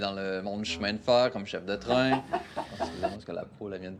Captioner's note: cackles